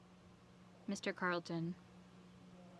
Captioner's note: speaking French